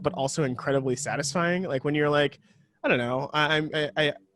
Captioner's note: stammers